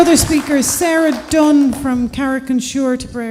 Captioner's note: applause